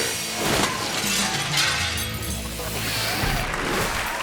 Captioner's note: glass shattering; graphics thump; audience applauding